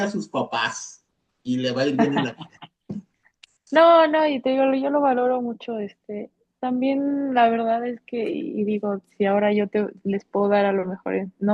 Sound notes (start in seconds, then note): 1.9 risas